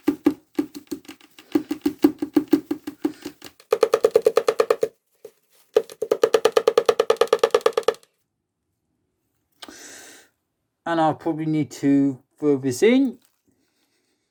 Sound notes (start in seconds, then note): 0.0 tapping the bin; 3.5 sped up tapping the bin